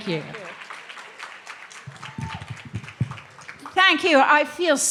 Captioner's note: clapping